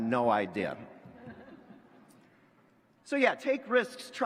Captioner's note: laughter